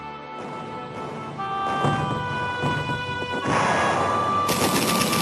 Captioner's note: heavy artillery booming; guns blasting